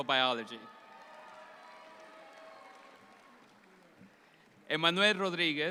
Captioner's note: audience applauds